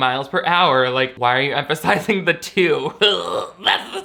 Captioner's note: laughs